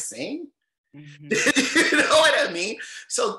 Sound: chuckles loudly

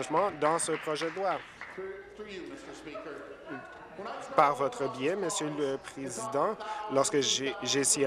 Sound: applause

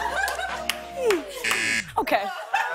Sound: buzzer

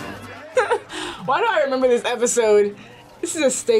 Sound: laughs

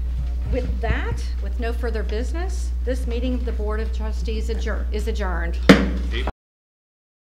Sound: gavel strikes sound block

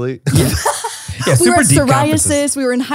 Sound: laughs

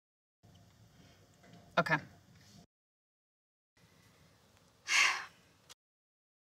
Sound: sighs

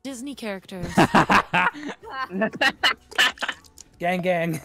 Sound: laughter

